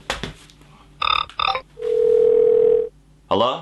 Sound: phone ringing

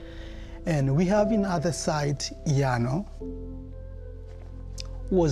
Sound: speaking foreign language

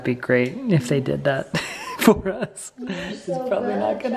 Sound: laughs

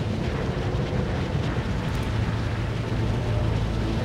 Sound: wind blusters

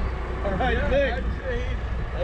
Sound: laughing

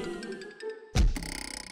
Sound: boing

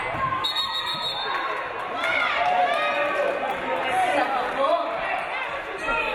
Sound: referee blows whistle

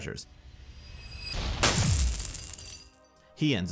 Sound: coins rattling

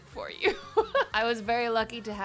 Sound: chuckles

